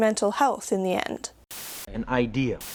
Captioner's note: static crackling